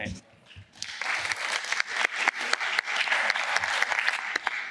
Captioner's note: applause